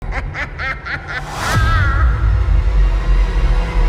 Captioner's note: evil laugh